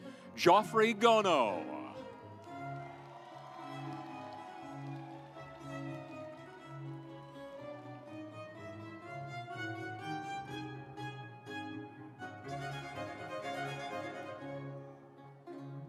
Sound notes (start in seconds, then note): 2.4 stately music; 3.9 audience applauds; 6.3 stately music